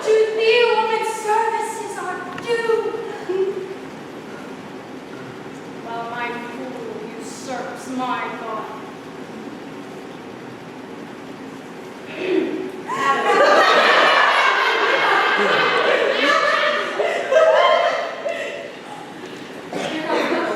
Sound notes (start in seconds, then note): 12.8 sustained laughter